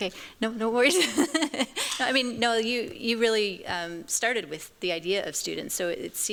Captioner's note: chuckles